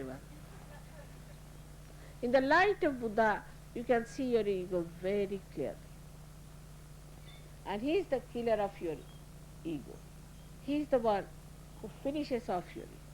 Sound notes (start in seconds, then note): 0.4 laughter